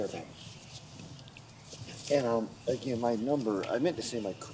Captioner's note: none